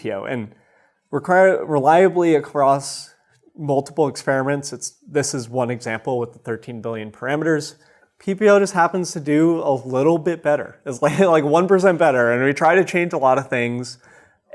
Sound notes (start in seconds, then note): 10.6 chuckles